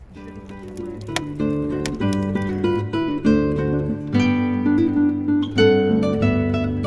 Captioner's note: fire crackling